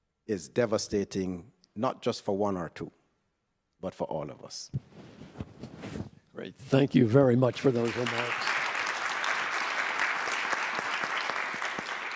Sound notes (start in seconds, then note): 7.4 applause